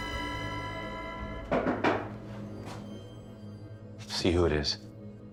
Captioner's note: knocking